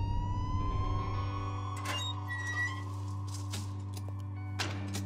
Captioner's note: siren Blaring